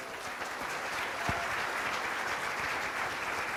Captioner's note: applause